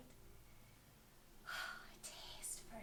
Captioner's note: exhale